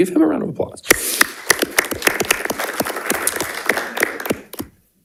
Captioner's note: everyone applauding